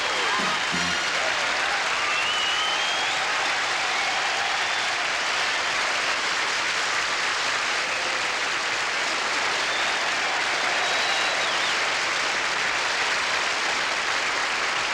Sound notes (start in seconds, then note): 1.3 applause